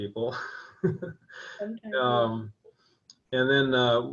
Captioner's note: laughing